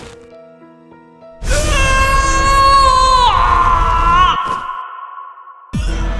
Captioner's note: screaming sound; struggling sound